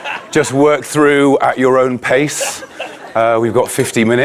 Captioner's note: audience laughing